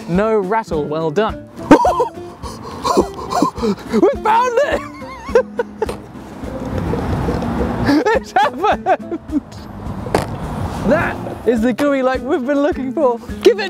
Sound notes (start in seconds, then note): 2.1 gasping; 5.1 laughing